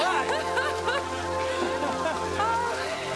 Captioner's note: crowd